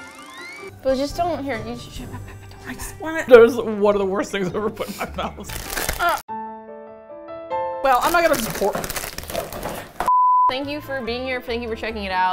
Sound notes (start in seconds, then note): 5.4 bag crinkles; 6.2 meloncholy music